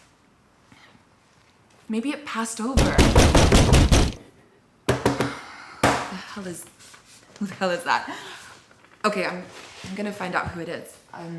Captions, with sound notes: Maybe it passed over. (door pounding) What the hell is, who the hell is that? Okay, I'm, I'm gonna find out who it is.